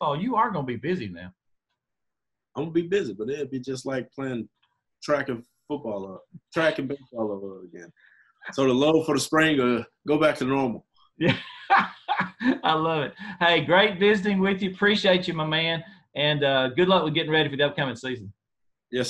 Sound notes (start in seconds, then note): 11.2 laughing